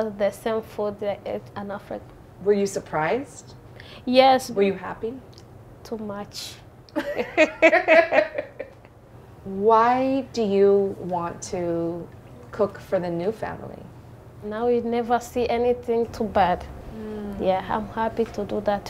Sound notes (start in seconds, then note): 6.9 laughter